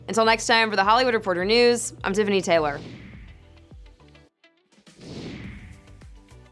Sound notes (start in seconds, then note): 2.6 whooshing; 3.0 bright music